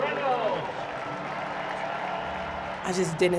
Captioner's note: crowd cheering